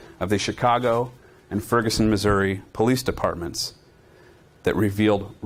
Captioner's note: none